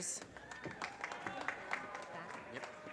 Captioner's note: audience cheers and applause